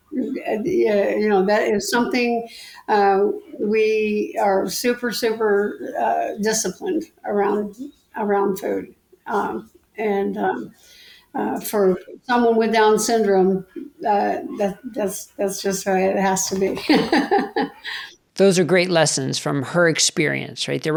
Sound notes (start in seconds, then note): 16.2 laughs